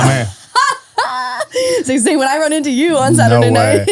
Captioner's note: laughs